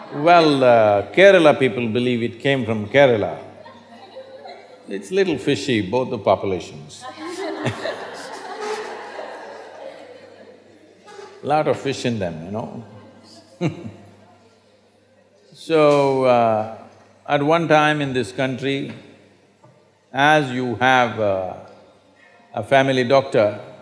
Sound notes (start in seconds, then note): 10.1 laughter; 14.7 laughs